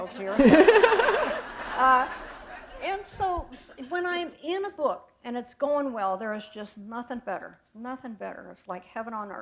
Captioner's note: laughter